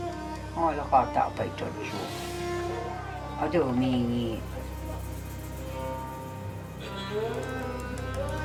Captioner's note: Chinese spoken audio